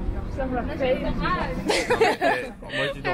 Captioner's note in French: rire